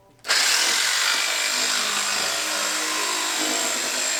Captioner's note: saw cutting